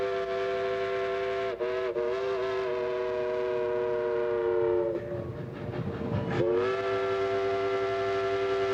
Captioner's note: train whistling